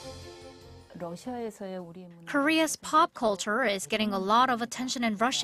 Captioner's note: Korean